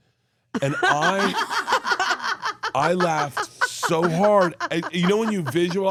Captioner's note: Steph laughs